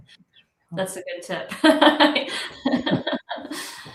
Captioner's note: laughs